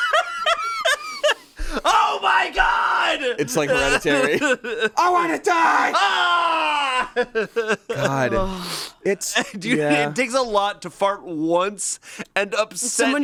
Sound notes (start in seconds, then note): 0.0 laughs; 5.0 screams